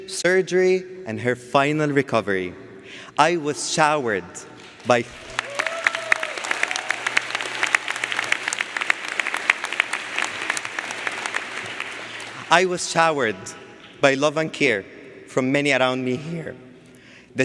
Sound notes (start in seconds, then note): 4.6 audience applauds